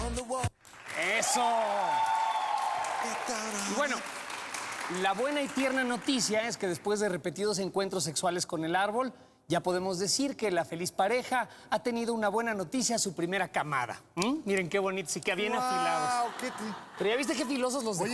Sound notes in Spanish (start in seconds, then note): 0.6 aplausos; 1.5 exclamaciones; 15.8 risas